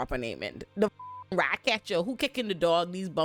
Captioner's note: beep